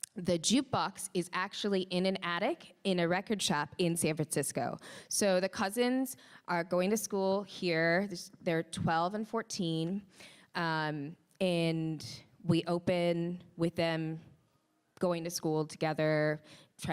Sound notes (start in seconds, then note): none